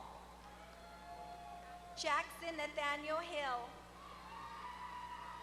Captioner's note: applause